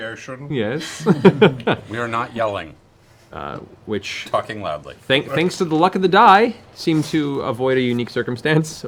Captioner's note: laughs